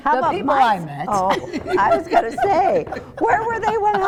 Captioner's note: laughs